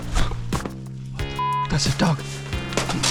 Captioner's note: beep